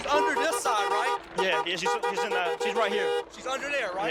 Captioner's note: car horn honking